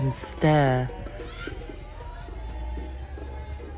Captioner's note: street sounds